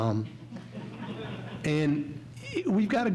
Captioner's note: audience laughs